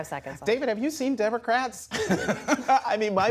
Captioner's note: laughter